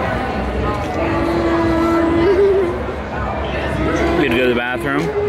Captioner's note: whimpering